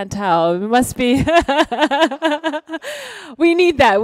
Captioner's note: laughs